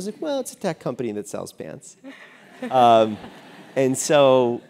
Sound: laugh

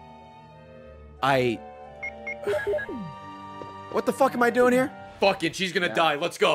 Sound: sighs

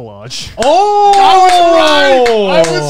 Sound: cheering

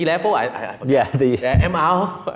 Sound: laughs

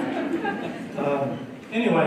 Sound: laughter

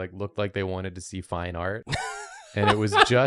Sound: laughs

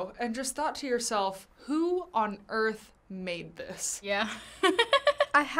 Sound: laughs

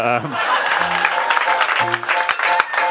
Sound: crowd laughing; crowd cheering; upbeat hiphop music

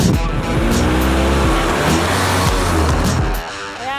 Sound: car revving

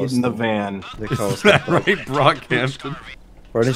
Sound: laughing

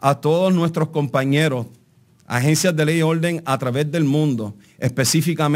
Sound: speaking in Spanish

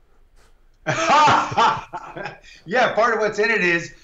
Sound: laughing

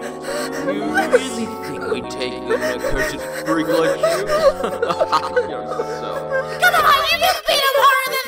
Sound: laughs

